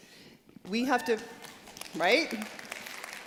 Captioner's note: applause